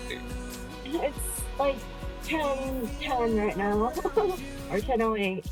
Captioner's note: laughs